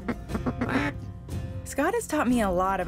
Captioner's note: duck calls